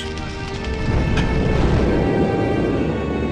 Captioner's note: wind blows